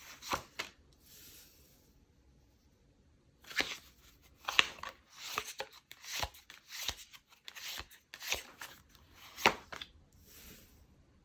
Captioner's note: drawing cards